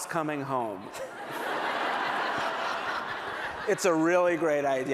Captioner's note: laughter